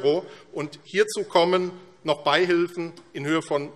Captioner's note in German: none